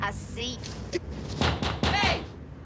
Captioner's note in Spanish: Toca en la ventana